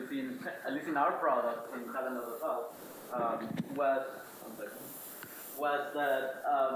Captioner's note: speaks faintly